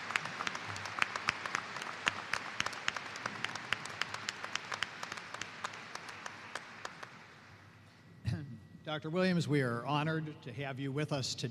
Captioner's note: applause